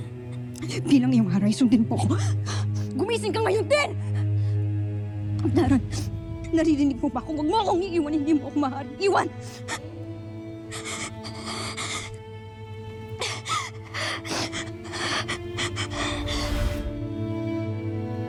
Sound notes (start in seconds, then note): 10.1 sobbing; 14.9 melodramatic music playing